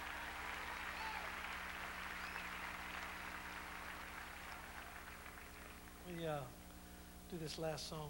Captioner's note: crowd cheering